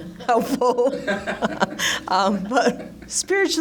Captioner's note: laughter